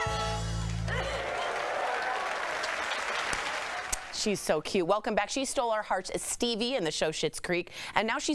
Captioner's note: applause